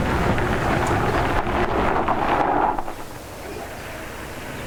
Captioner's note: gravel crunching